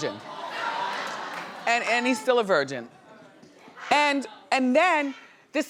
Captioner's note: audience laughing